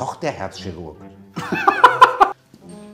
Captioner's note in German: Lachen